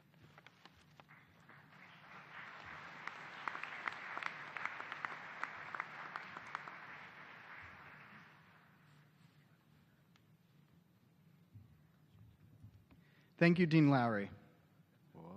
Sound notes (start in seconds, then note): 2.8 applause